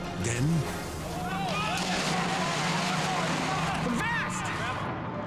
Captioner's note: water splashing